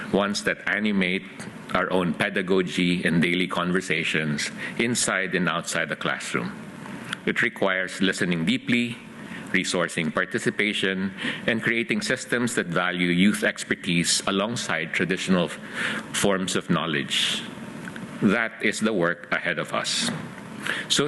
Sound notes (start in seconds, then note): none